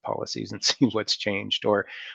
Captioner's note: chuckles